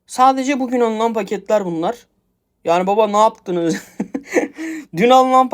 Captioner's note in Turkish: kahkaha